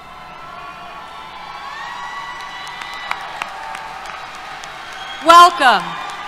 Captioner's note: cheers, Applause